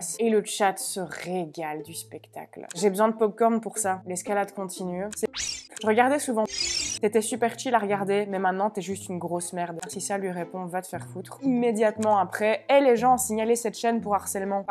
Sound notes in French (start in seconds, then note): 5.3 bip